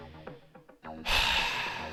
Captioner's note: sigh